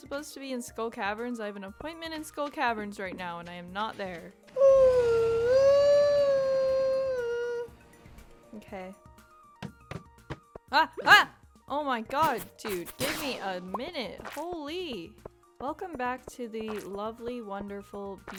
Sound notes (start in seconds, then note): 7.4 yawwwwwwwwwwwwwn